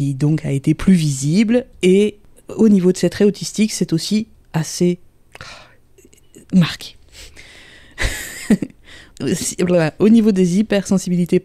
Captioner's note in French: rire